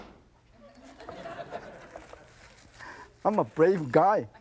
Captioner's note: audience laughs